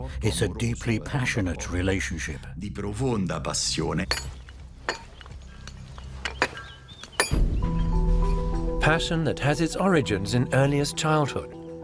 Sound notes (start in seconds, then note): 3.1 chisel chinks against stone; 6.5 intrigue music